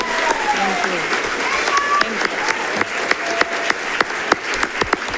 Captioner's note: audience applauding